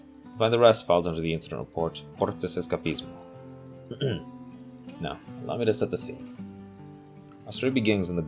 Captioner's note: ahem